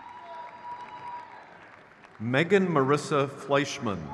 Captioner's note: crowd cheers